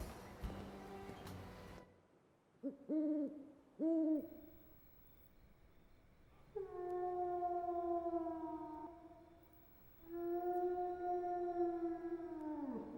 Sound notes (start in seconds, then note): 3.8 owl hooting; 6.5 distant howling echoes